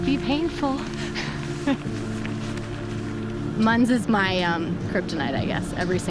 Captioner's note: laughs